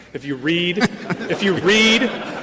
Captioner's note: laughter